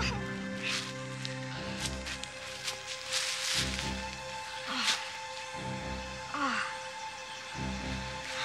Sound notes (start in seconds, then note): 0.5 whimpering; 5.2 groaning